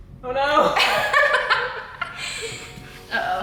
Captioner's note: laughter